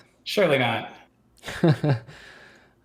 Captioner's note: chuckles